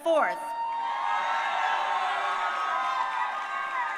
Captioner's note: crowd cheering